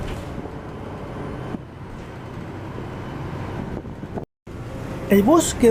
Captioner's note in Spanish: sonido ambiental, bus casi vacío